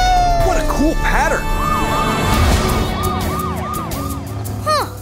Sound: siren blaring

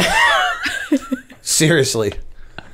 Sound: laughter

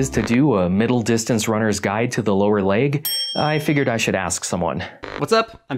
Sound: ding

